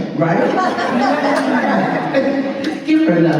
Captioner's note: laughter